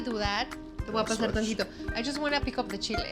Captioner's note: speaks Spanish